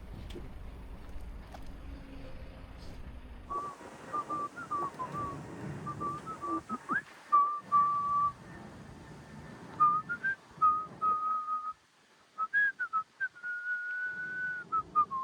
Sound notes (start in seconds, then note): 4.1 annoying whistling